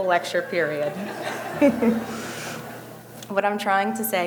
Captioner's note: audience laughing